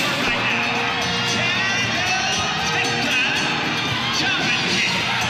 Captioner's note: crowd cheers